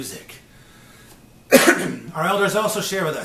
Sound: coughs

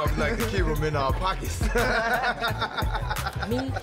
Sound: laughing lightly

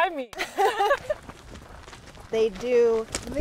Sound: both laugh

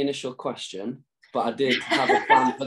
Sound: laughing

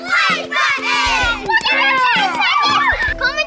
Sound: cheering

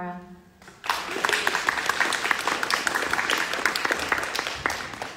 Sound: audience clapping

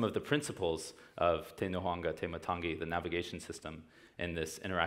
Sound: speaking foreign language

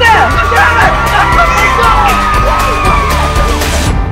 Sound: cheering

